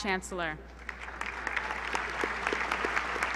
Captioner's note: applause